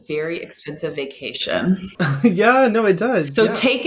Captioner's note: laughs